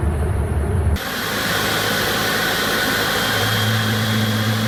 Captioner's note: plane engine roars